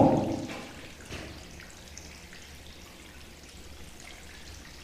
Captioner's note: water dripping